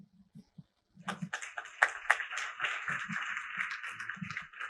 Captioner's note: applause